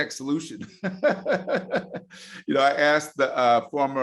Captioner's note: laughing